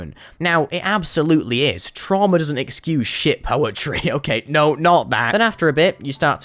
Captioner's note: laugh in sarcasm